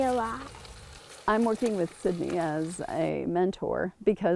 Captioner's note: UTV humming